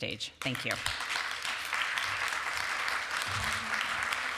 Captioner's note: applause